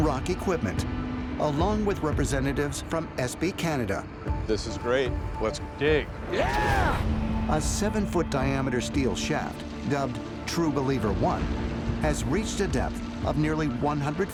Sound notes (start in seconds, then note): 6.3 cheering